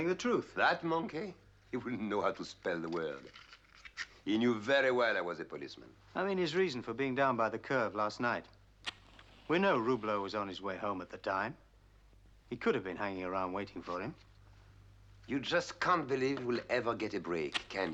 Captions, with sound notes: That monkey? He wouldn't know how to spell the word. He knew very well I was a policeman. I mean his reason for being down by the curve last night. - [match striking] - We know Roublot was on his way home at the time. He could've been hanging around waiting for him. You just can't believe we'll ever get a break, can you?